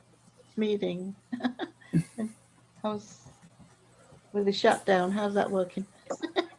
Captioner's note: laughing